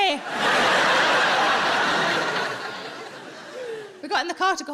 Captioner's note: audience laughing